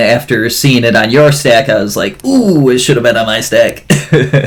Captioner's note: laughs